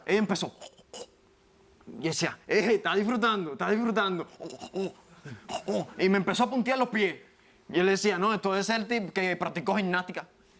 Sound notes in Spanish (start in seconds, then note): 1.5 Sonido gutural; 5.2 Sonido gutural